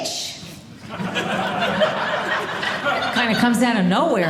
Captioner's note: audience laughing